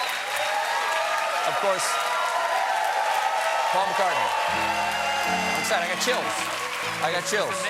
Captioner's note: cheers and applause